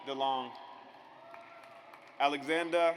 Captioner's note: audience applauds